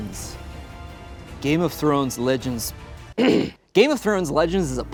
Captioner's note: clears throat